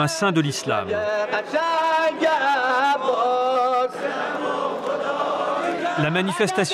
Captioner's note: Arabic spoken language